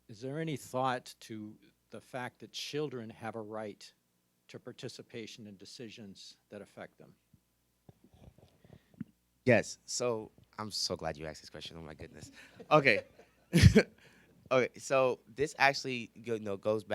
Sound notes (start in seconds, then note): 13.2 audience laughs; 13.5 laughs